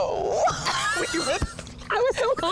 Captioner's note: all laugh